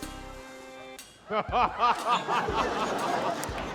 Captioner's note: laughter